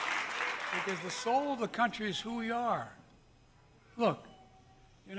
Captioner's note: applause